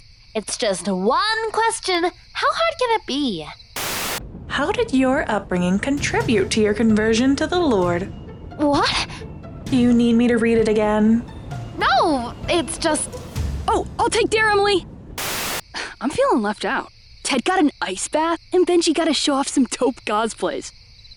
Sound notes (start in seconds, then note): 15.6 scoffs